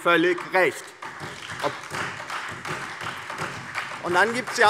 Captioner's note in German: Beifall DIE LINKE, SPD und Freie Demokraten